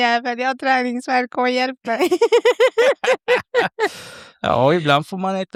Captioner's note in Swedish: skratt